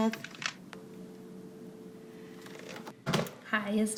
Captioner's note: caller hangs up... dial tone